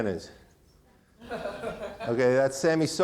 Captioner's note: man laughing